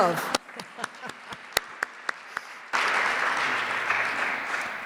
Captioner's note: audience applauds